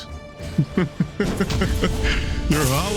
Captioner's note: laughs